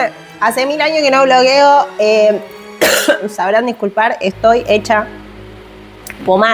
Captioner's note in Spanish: carraspeo